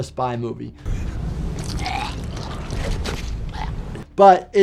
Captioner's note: bystander vomiting